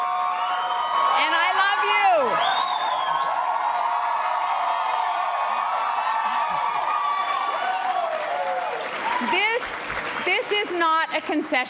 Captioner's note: applause and cheering